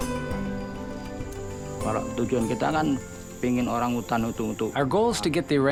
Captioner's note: speaks in foreign language